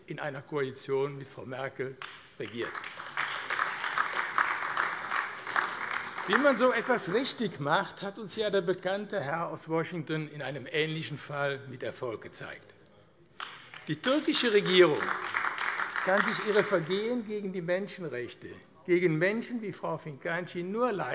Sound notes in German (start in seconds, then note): 3.5 Beifall AfD; 13.4 Beifall AfD